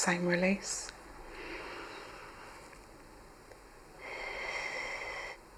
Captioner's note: breathes heavily